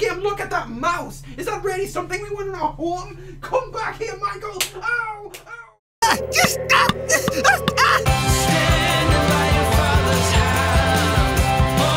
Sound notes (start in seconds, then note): 6.0 cries of pain; 8.1 cheerful music